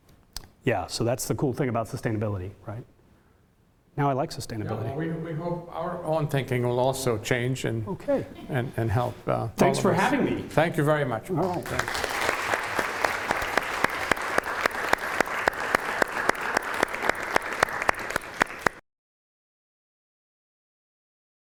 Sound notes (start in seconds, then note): 11.4 audience applause